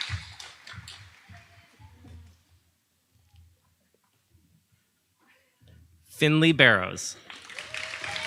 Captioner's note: audience applauding